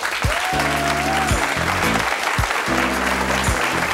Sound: audience applauding

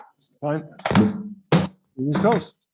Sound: gavel bangs

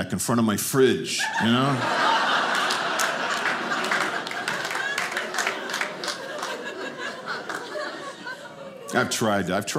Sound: audience laughing

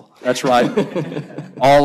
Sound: laughter

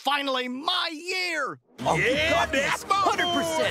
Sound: cheering

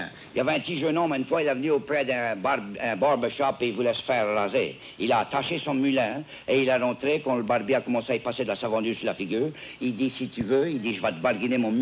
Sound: speaking french

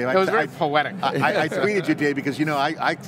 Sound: laughing

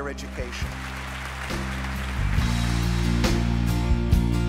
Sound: applause

